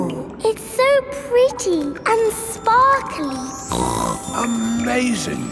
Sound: snorts

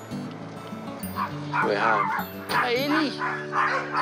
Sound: barks

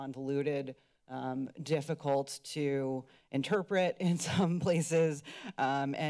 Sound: chuckling

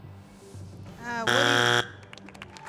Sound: buzzer

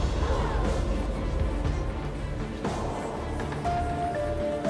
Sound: audience gasps

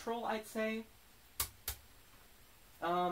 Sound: slap

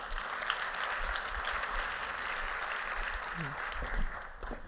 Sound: applause

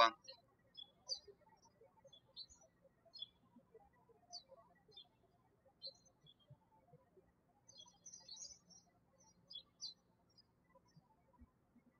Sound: birds chirping

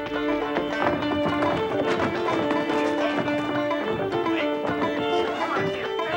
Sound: water splashing; barrels thudding

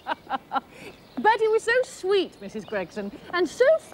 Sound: laughter

